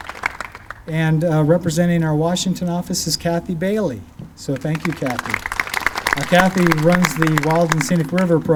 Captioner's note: clapping; clapping